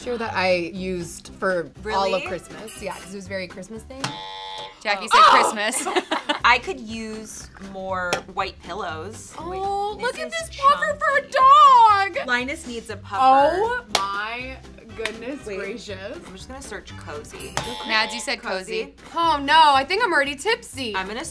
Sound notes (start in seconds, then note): 4.0 incorrect buzzer; 5.0 laughs; 17.6 incorrect buzzer